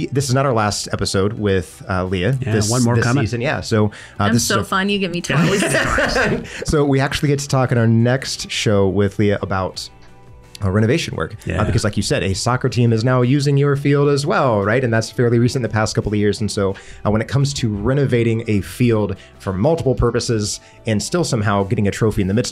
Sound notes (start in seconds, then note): 5.3 laughs